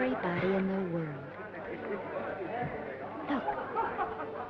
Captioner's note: attendees chattering